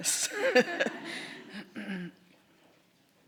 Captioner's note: laughter